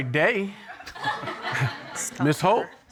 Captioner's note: audience laughing